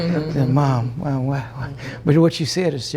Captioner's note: laughter